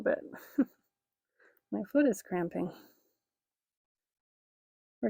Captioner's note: chuckling